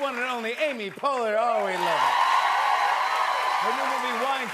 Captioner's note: cheers and applause